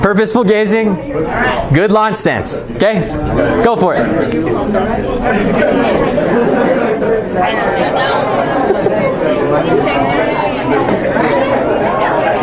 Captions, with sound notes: Purposeful gazing, good launch stance, okay? Go for it! (students talking)